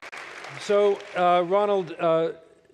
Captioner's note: applause